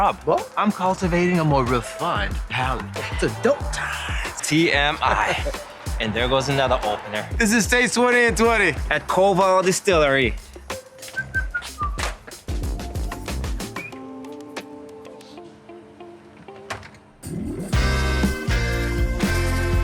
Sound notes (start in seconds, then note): 10.7 whilsting; 13.0 door clicking; 17.2 lively music